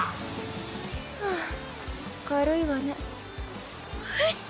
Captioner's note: sigh